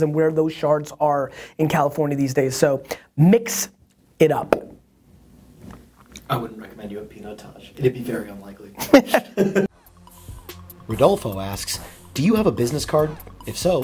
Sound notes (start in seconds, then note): 8.8 laughing; 10.7 voiceover